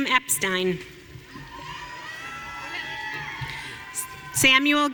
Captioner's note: audience cheering